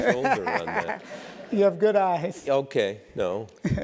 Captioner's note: laugh